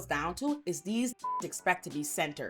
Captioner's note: beep